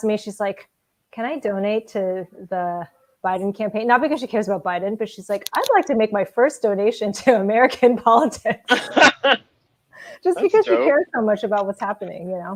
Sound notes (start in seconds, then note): 8.6 laughing